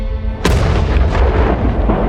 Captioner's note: explosion sound